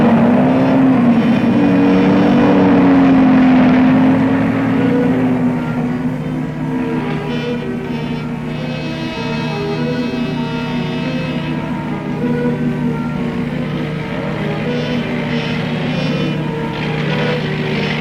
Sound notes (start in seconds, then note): 1.2 car engine revving; 9.6 dramatic music; 13.6 car engine revving